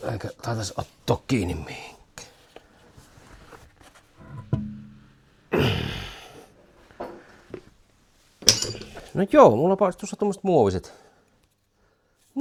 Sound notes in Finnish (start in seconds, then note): 5.5 huokaus